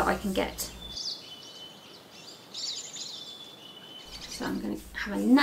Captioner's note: birds tweeting